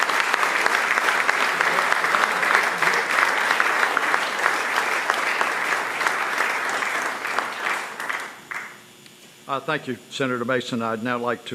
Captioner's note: applause